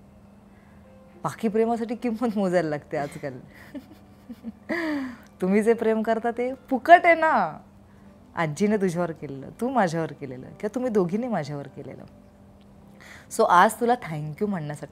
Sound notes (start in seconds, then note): 3.5 Chuckles